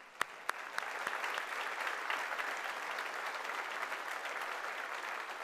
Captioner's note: audience applauding